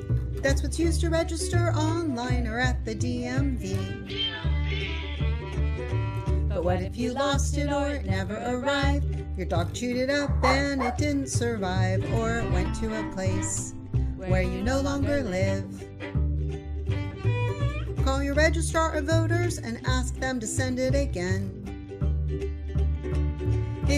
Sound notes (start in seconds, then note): 10.3 dog barks